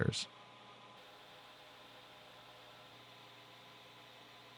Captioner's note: machine whirring